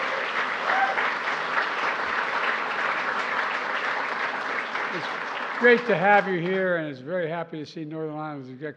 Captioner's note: applause